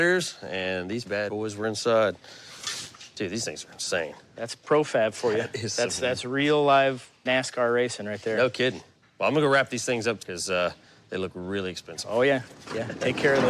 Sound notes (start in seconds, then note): none